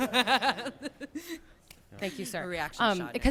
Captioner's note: laughter